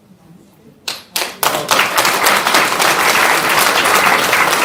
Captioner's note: applause